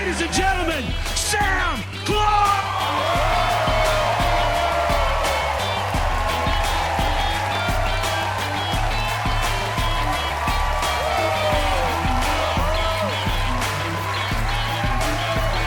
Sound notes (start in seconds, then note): 3.5 crowd cheers and applauds; 6.1 hard rock music continues; 12.7 hard rock music